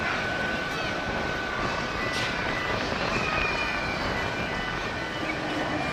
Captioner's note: elementary pupils screaming ecstaticly